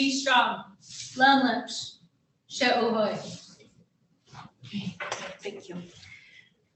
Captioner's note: speaking in foreign language